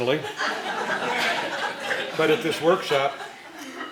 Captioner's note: laughing